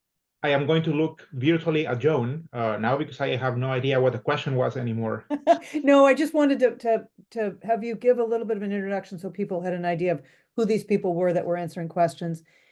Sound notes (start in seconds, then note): 5.3 chuckling